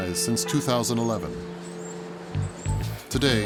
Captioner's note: birds chirping; upbeat music